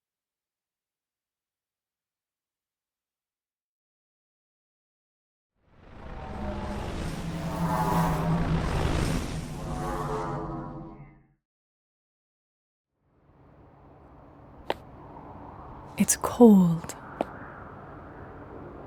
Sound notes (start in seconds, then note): 7.5 electronic whirring